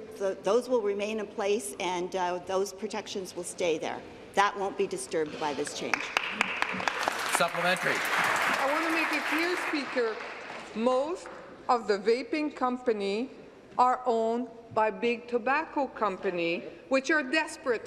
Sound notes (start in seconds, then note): 12.2 applause